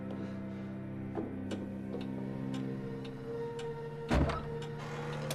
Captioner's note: clock ticking